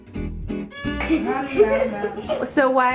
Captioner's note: laughing